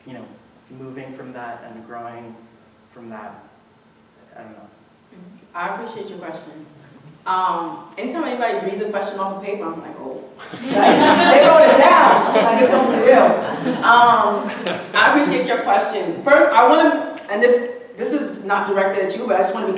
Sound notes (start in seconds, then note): 10.4 audience laughing